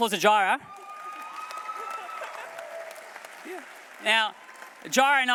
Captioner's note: applause